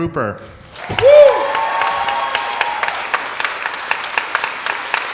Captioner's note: audience applauding